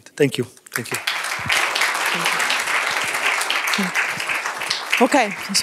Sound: applause

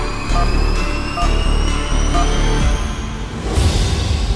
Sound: pinging

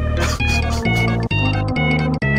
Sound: laughs

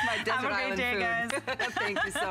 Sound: laughter

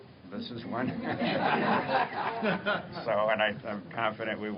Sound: laughter

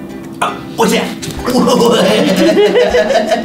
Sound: laughs

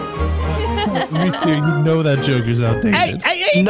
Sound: laughing

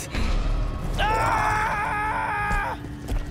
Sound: screaming

